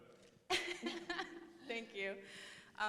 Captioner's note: laughs